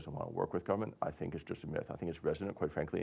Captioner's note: none